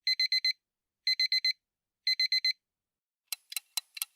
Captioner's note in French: Bip de réveil